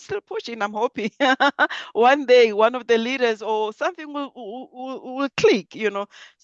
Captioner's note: laughs